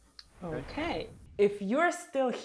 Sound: sweeping swoosh

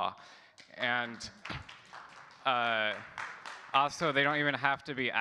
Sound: audience clapping

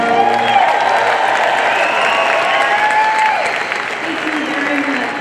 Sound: audience cheering and clapping

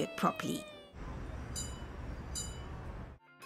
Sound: traffic sounds

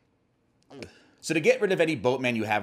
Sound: chokes

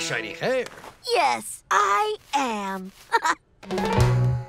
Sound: chuckles

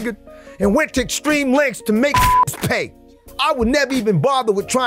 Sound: beep

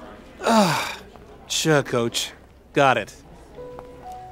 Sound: sigh

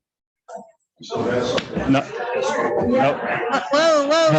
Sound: chattering

